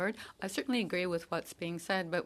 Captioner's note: speaking in French